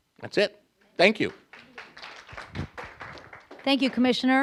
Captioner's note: applause